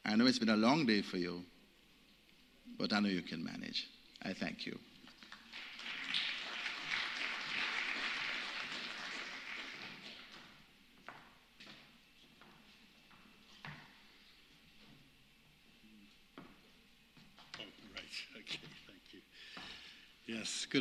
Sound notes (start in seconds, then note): 10.9 applause